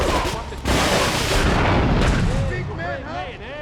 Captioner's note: gunshots; muffled yelling; gunshots